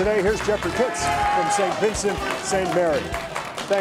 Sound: crowd cheering

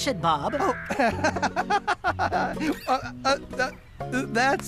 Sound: laughing

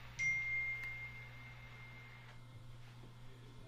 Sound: phone dings

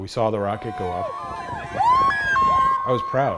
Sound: people cheering

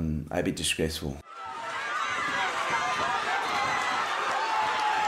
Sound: crowd cheering

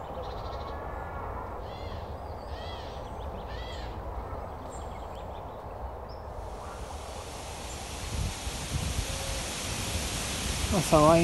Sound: bird song. leaves shaken by gentle wind

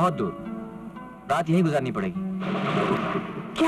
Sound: thunder crashing

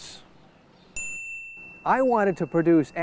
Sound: SFX: chime

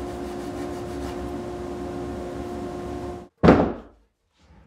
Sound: plywood thudding

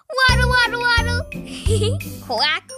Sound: giggles

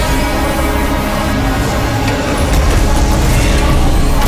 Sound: clattering sounds

